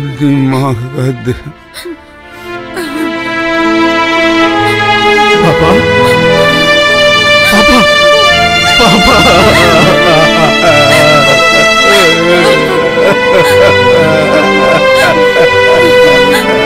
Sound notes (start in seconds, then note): 8.6 wailing